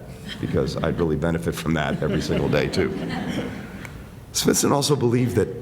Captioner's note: laughter